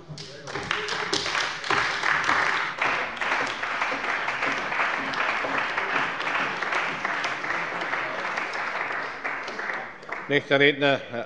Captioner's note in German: Beifall bei der CDU und bei Abg. des BÜNDNISSES 90/DIE GRÜNEN